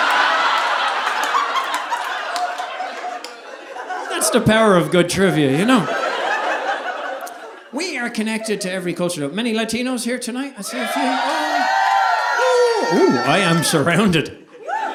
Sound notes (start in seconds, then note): 0.0 audience laughing; 10.6 audience cheering